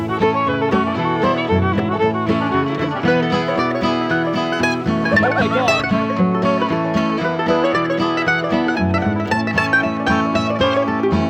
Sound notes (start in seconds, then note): 3.4 laughing